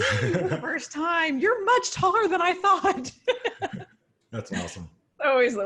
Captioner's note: laughs